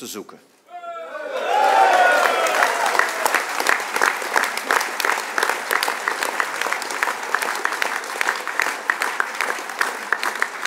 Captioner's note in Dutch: applaus